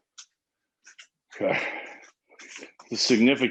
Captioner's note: breaths heavily